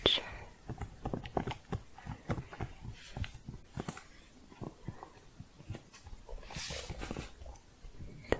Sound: typing continues

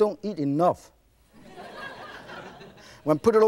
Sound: laughing

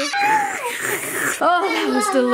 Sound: person slurping

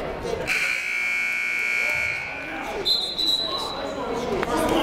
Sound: buzzer ringing; whistle blowing

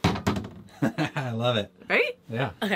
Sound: chuckling

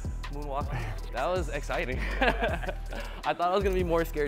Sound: laughs

